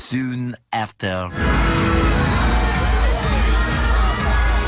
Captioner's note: loud crowd chatter; music playing loudly